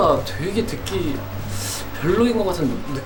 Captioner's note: hmm